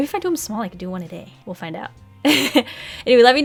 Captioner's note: laughs